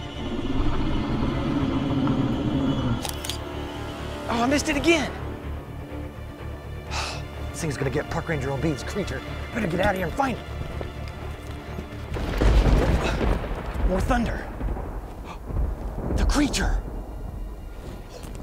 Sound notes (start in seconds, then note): 0.0 low growling; 3.0 camera snapping; 5.8 dramatic music; 12.1 thundering